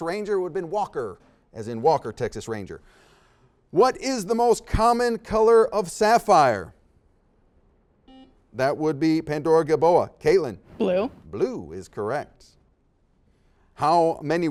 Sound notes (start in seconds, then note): 8.0 beeps